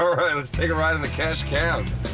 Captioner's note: laughs